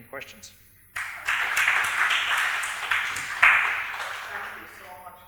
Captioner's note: audience applauding